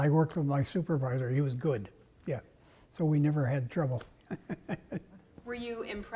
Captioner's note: laugh